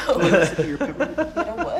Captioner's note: group laughing